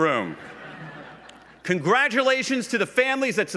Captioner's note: laughs